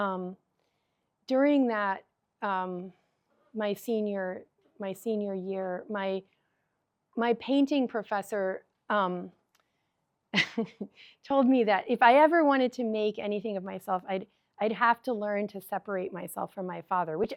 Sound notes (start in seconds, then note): 10.4 chuckles